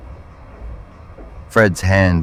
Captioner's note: SFX: boots running up metal stairs